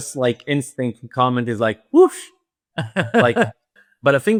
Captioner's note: laughs